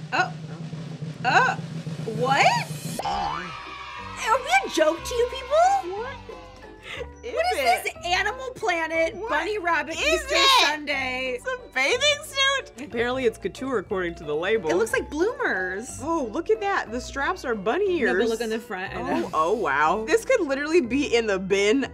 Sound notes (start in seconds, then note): 0.0 suspenseful drum rolling; 3.0 children cheering; 6.3 laughing